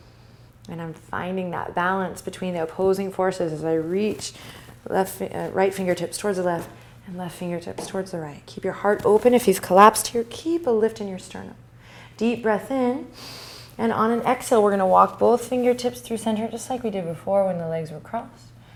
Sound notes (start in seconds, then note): 11.7 breathing